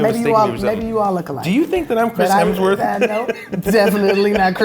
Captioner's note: laughs